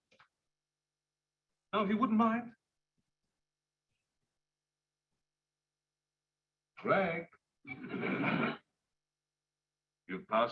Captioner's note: laughter